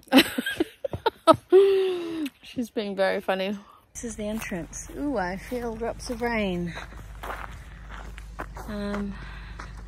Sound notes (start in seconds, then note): 0.1 laughs; 7.0 feet crunch on gravel